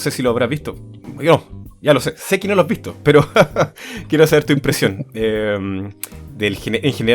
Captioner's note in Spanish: risas